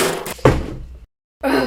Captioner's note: bang; BANG! THU THUD! x 3